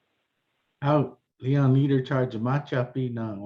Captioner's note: non-english speech